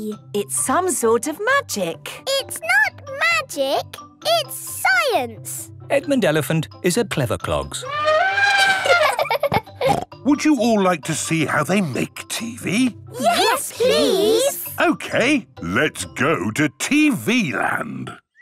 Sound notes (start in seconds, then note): 7.8 trumpeting; 8.0 laughing